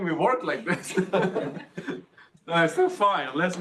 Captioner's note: audience laughs